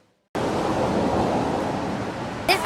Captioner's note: van driving past